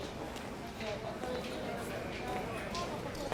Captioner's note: background chatter